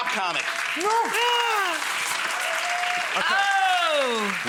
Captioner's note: audience clapping